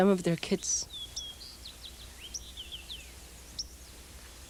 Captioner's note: birds chirping